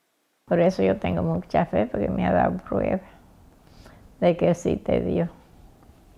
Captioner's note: speaking in a foreign language